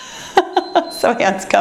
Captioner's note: timer beeps